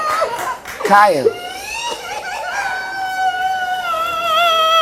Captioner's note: weeps